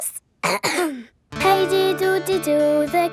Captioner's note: clears throat